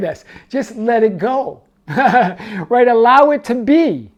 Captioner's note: laughs